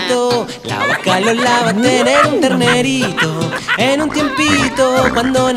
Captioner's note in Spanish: Risas